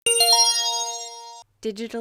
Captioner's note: chime